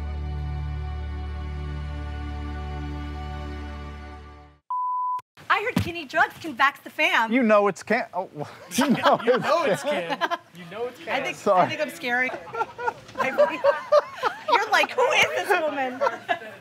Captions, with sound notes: I heard Kinney Drugs can vax the fam! You know it's can! OH! You KNOW it's can! You KNOW it's can! Sorry! (Laughter) (Laughter) I think I scared him! You're like, "Who IS this woman?" (Laughter)